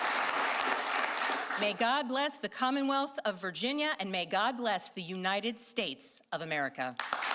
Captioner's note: applause